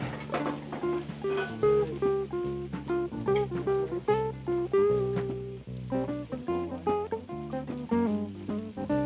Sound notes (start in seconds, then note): 0.0 calm music; 4.6 food sizzling